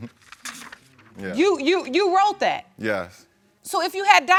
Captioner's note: stammering